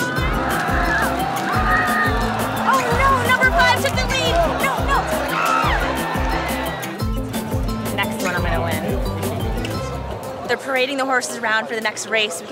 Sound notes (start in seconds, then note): 0.0 crowd cheering; 5.2 cries